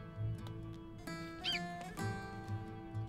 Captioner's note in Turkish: Atmaca sesi